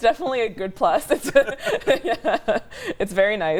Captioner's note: laughs